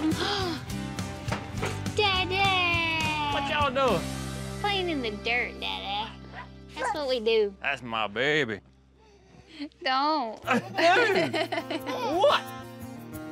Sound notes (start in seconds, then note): 0.1 gasps; 10.4 laughs